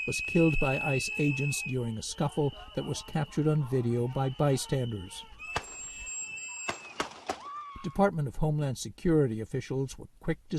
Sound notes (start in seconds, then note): 5.5 screaming; 6.6 gunshots